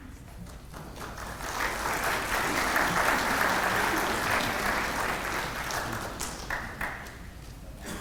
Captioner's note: applause